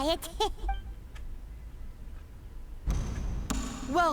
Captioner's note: door closes